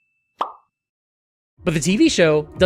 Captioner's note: SFX: Ding!; SFX: Pop!